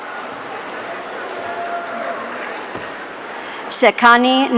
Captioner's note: audience cheering